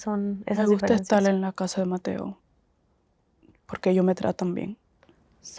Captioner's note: Spanish